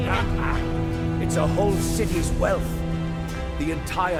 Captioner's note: footsteps